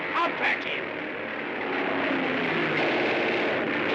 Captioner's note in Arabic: هدير الطائرة; هدير طائرة; إطلاق نار من مدفع رشاش